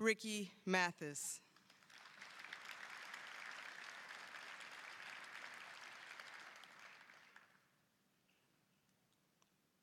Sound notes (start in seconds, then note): 1.5 applause